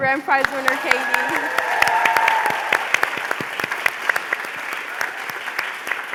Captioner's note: applause, cheering